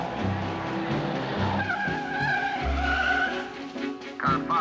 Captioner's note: tires screeching